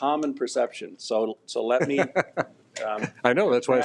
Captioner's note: superintendent laughs